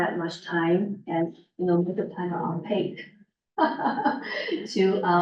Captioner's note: laughs